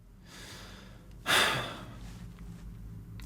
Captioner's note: deep breath